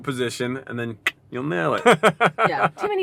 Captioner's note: laughs